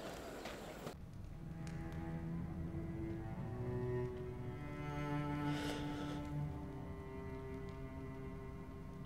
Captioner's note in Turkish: Ateş çıtırtısı sesi